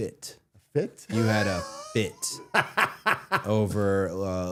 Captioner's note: Matt laughing